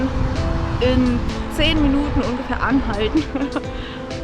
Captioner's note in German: lacht